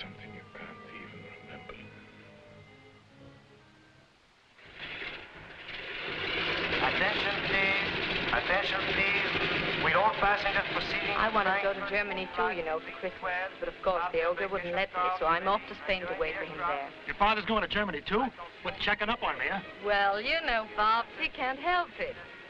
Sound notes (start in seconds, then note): 7.0 man On Loudspeaker